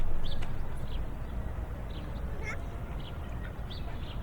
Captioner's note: birds chirp